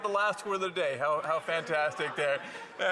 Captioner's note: laughter